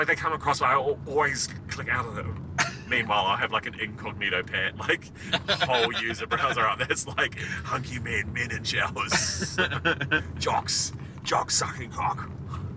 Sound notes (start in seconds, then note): 9.0 chuckling